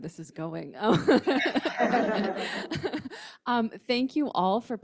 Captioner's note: laughs